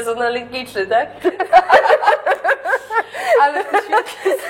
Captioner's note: laughter